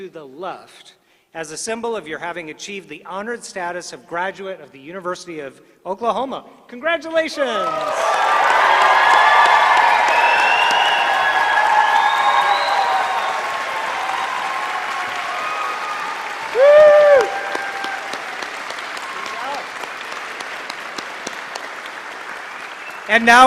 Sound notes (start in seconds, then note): 7.5 applause